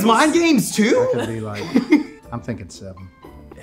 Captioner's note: chuckling